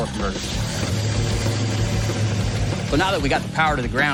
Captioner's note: engine starts